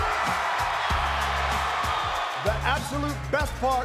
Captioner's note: crowd cheering